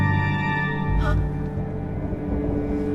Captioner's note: Ellen gasps